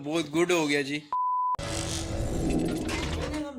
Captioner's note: transition with Sound